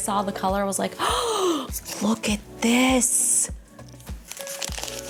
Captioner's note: gasps deeply